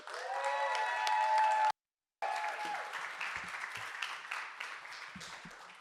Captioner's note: audience cheering and applauding